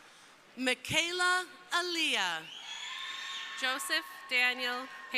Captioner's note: crowd cheering